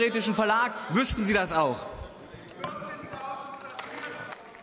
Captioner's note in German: Beifall